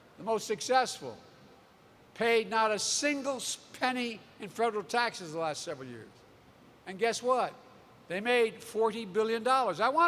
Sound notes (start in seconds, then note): none